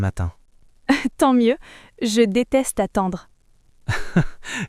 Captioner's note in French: rire